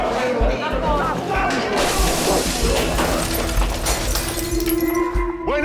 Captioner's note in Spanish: Ruido de vidrios rotos